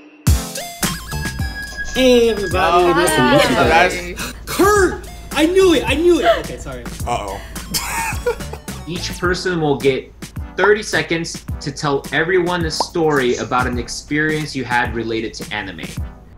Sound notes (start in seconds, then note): 0.1 upbeat music; 8.2 laughs